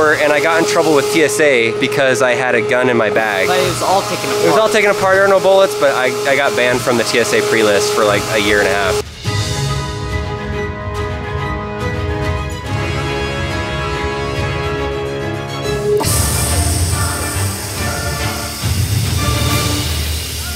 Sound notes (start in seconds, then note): 9.8 dramatic orchestral music; 16.0 sawing noise